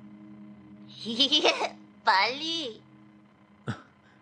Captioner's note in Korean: 웃음